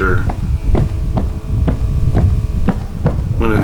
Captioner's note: footsteps